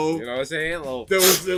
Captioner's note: sniffs